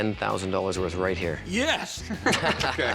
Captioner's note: laughter